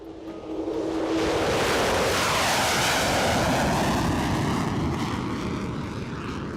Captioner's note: ER-2 taking off